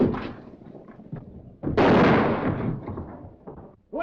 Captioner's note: gunshot